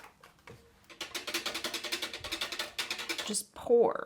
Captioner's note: stirring sounds